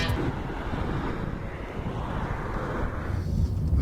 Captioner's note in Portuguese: Barulho do vento